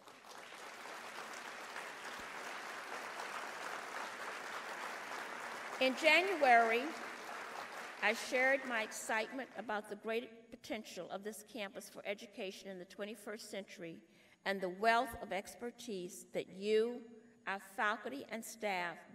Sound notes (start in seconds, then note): 3.8 applause